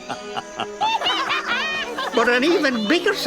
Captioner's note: Piggley, Dannan and Ferny laughing